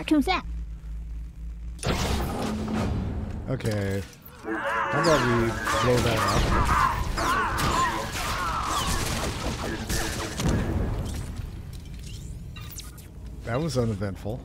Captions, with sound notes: Cartoon slap. OK. I love you. [NON-ENGLISH SPEECH] [GUNSHOTS] [GUNSHOTS] That was uneventful.